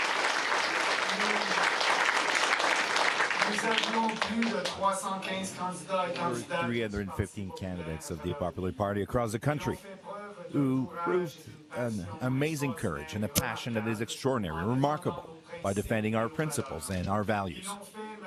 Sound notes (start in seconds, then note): 3.4 applause; 12.8 speaking in French